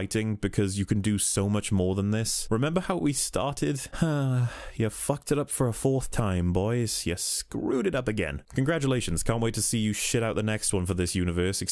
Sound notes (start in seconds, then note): 3.9 sigh